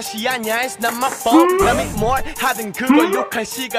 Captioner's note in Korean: 으음- 으음!